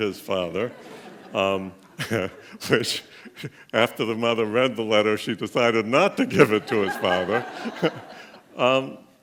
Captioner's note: laughing